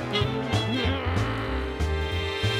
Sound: growls

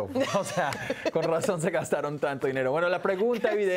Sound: Risas

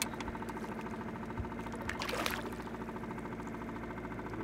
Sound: fish splashing

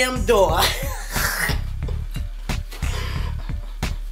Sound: mom laughs

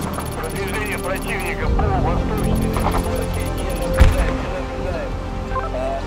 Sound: radio exchange

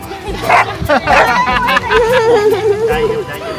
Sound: laughs

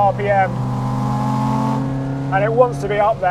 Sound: engine revving

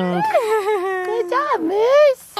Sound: laughing

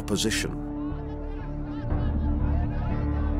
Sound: indistinct shouting

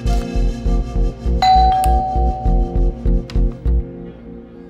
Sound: calling bell sound

